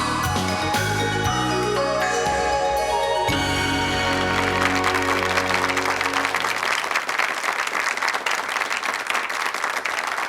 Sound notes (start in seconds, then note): 3.3 audience applauding